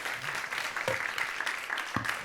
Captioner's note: audience applauding